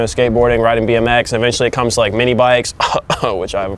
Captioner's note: coughs